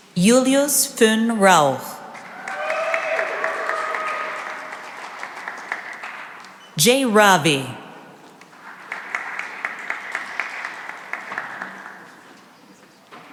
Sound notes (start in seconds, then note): 2.0 cheering and applause; 8.3 applause